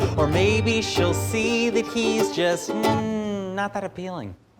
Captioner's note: none